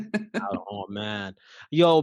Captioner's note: laugh